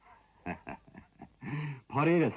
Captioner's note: chuckles; laughing